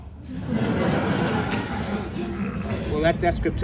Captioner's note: audience laughs